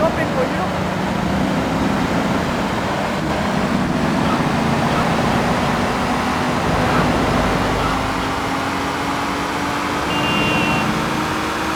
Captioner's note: engine roaring